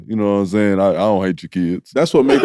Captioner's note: chuckles